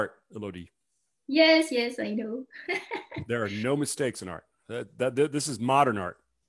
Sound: chuckles

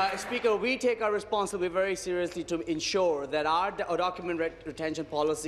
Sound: applause

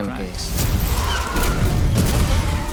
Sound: tires screech

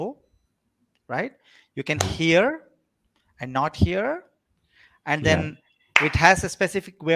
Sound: claps

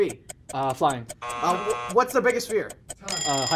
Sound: buzzer

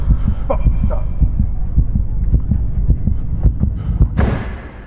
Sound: tense heartbeat

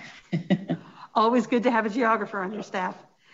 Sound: laughing

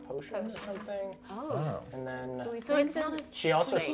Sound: whispers

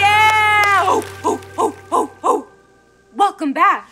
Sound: hooting

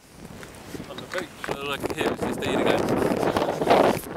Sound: nervous nose exhale sounds

